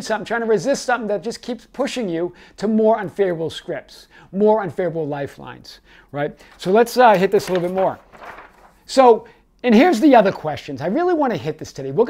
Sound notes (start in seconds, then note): 8.2 pages shuffles